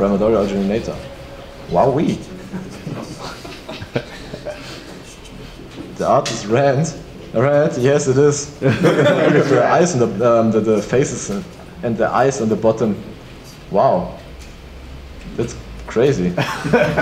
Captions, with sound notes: the Primordial Originator, wowee. That is rad, all right, yes it is. (laughs) The faces and the eyes at the bottom, wow, that's crazy.